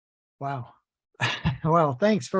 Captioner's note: laughs